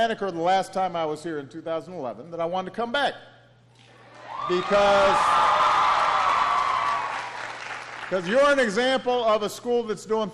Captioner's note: applause